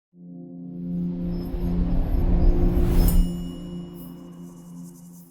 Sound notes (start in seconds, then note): 3.0 bell chime